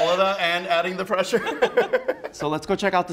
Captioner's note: both laugh